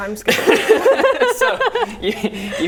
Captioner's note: laughing